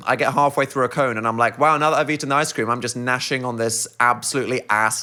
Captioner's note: none